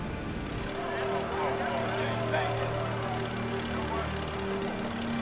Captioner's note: voices chattering